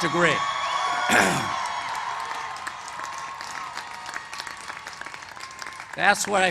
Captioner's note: cheers and applause